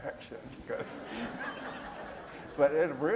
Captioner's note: laughter